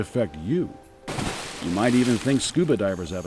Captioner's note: water splashing